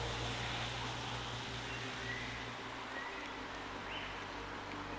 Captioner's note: birds chirping; calm music